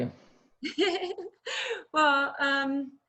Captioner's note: laughs